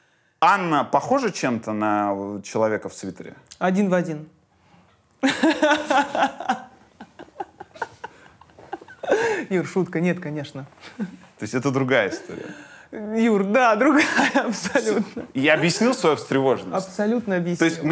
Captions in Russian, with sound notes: Анна похожа чем-то на человека в свитере? Один в один. (Ира хохочет) Юр, шутка. Нет, конечно. То есть это другая история? Юр, да, другая абсолютно. — Я объяснил свою встревоженность? — Абсолютно объяснил.